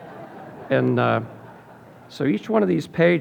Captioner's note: audience laughing